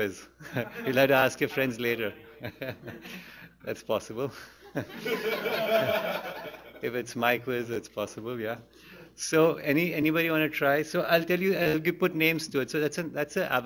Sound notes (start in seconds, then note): 0.4 laughter; 3.2 laughs; 4.7 laughs; 6.3 laughter